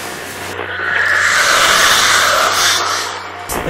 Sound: ghostly woosh

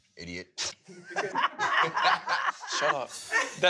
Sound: group laughs

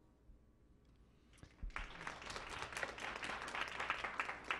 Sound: clapping

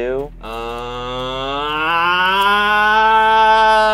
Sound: groaning

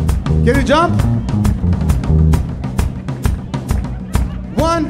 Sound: audience member laughing

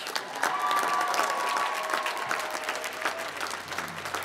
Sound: applause

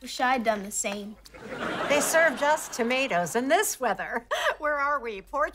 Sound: laughing

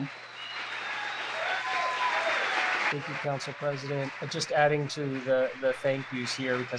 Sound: applause

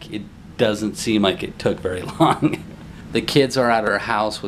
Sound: laughs

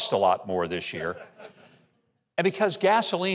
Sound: audience laughs

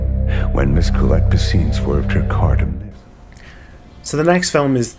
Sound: speech fades out

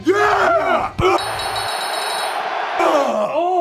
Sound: bell dings in approval

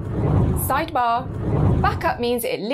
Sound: screen whooshing

